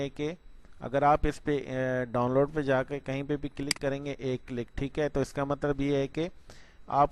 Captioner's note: single click